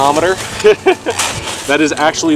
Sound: laughing

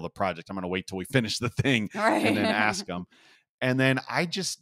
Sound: laugh

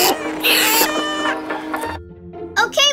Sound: animal sounds

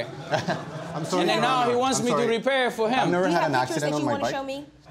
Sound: laughs

